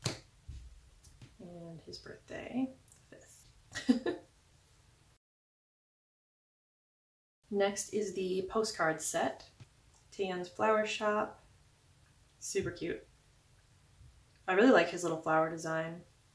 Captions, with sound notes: And his birthday. *laugh* Next, is the postcard set. "Taehyn's Flower Shop." Super cute. I really like his little flower design.